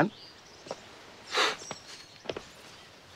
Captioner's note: sniffles